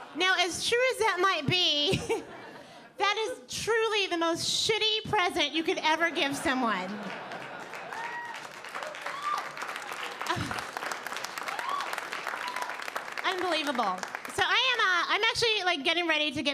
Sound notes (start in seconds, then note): 6.9 audience applauding